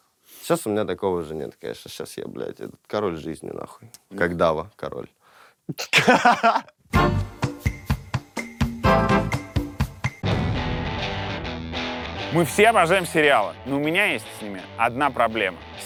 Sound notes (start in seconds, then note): 5.7 laughs; 10.2 rock music